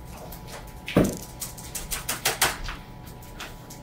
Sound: keyboard clicking

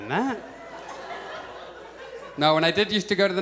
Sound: audience chuckles

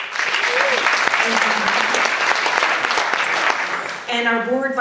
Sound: audience laughs

